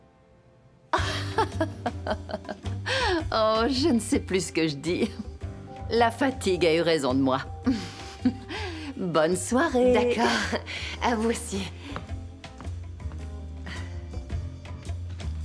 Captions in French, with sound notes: (rire) - Vous savez quoi ? C'est juste une divagation d'un cerveau fatigué. (rire) Bonne nuit. (rires) - OK. Bonne nuit.